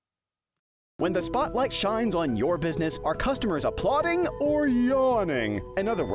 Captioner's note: voiceover